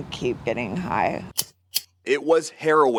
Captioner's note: lighter clicks